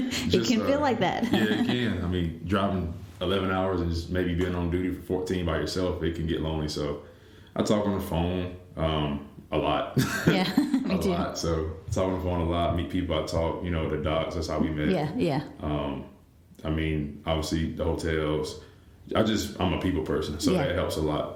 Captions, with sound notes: It can feel like that! Yeah, you can. I mean, driving 11 hours and just maybe being on duty for 14 by yourself, it can get lonely, so I talk on the phone, um, a lot! (laughter) Yeah, me too. A lot! So talk on the phone, a lot, meet people i talk you know the docks-- that's how we met. Yeah, I mean, obviously, the hotels-- I just... I'm a people person, so that helps a lot,